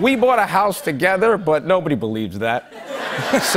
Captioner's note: laughter